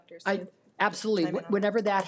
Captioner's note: speaks faintly